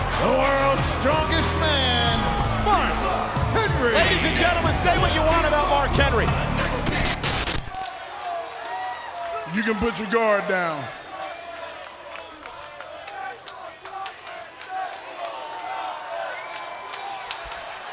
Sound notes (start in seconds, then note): 12.6 crowd chanting